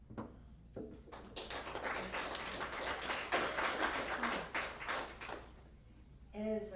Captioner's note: applause